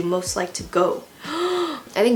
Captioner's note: excited gasp